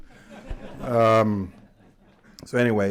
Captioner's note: laughter